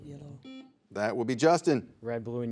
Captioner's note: buzzer buzzes